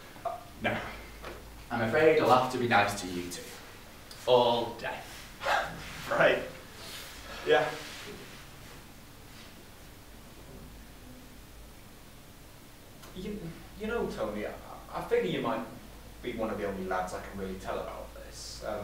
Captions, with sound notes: No. I'm afraid I'll have to be nice to you too, all day. (laughs) Right. Yeah. Y'know, Tony, I figure you might be one of the only lads I can really tell about this.